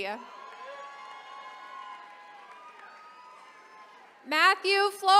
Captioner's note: attendees cheering